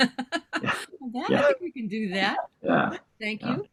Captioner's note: chuckles